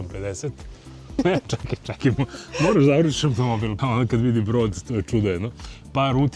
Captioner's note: laughter